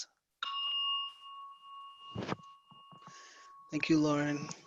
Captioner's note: bell rings